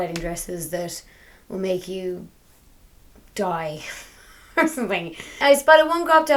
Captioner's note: laughs